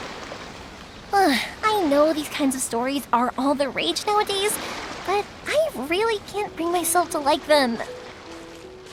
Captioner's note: sigh